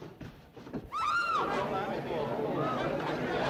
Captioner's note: Mary screams